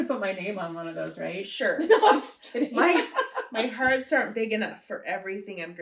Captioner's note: laughter